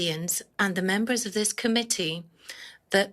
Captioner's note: speaking in French